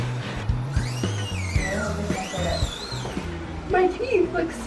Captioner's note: electronic tools buzzing